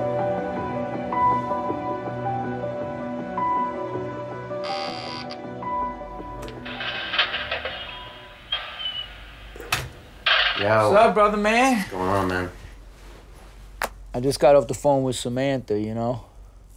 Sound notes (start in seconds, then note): 4.6 buzzer buzzes; 6.4 door creaks